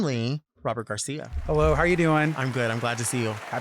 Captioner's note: audience cheering